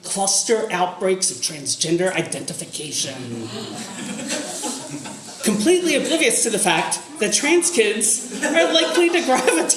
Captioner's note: audience gasps